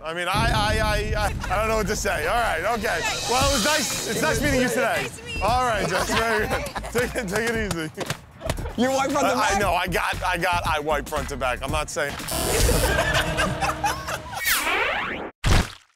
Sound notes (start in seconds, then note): 12.3 buzzer; 12.6 laughter